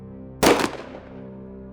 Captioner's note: gunshot